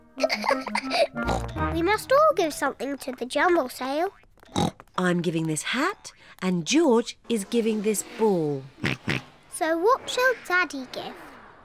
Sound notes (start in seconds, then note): 0.2 giggles; 4.4 oinks; 8.8 oinks